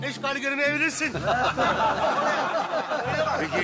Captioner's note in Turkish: Kahkaha sesleri duyulur